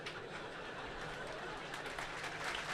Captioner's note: clapping